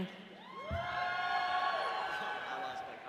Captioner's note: audience cheering